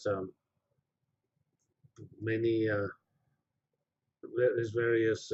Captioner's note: pause